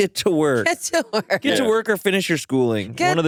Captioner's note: laughs